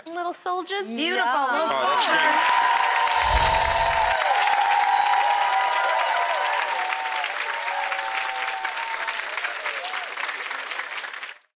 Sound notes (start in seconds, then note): 1.8 applause; 7.4 chimes